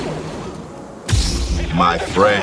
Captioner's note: lightsaber igniting